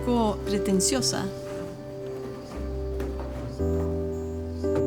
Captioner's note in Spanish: sonido manipulando cartón